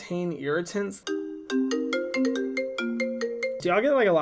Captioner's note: phone ringing